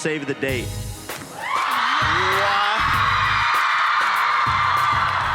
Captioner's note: crowd cheering